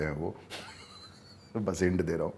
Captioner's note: laughs